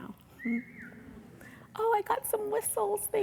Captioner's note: audience member whistling